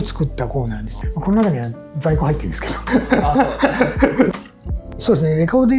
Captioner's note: laughs